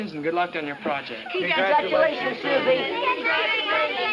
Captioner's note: group chatter